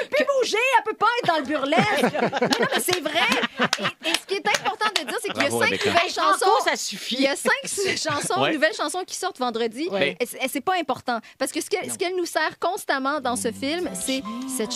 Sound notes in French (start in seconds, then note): 3.6 rires